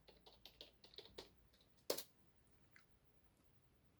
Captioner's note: keyboard typing sound